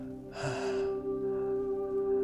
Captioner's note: gasps